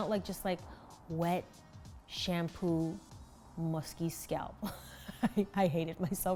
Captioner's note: laughs